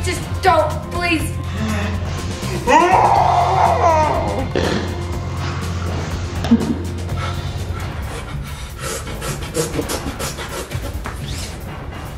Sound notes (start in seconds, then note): 2.7 yelling; 7.6 whimpering